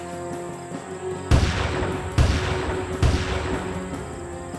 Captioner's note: gunshots booming